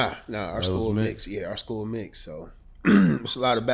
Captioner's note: clears throat